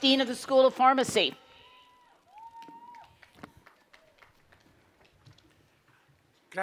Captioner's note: cheering and Applause